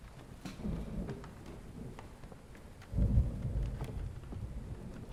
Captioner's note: thunder rolling